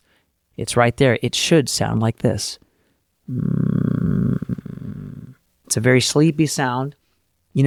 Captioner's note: vocal fry sound